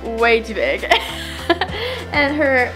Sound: laughs

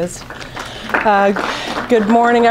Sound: audience clapping

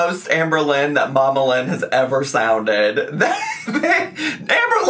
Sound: laughs

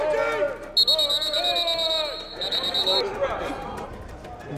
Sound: whistle

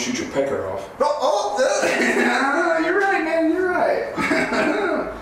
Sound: laughs

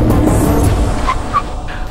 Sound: brakes squeak

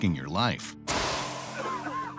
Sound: gas exploding; people coughing

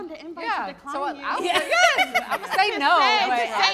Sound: laughing

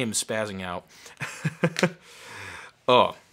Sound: laughing

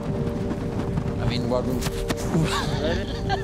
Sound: laughs

